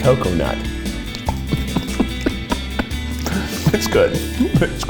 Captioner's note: chuckling